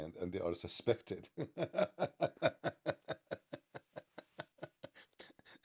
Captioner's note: Ketawa